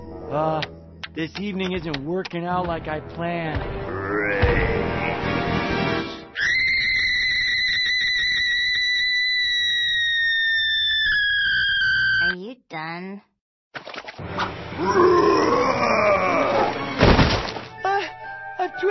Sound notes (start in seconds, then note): 6.2 he screams like a lady